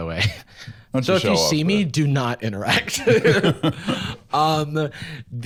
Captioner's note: laughs